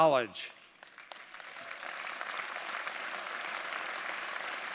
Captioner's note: audience applauding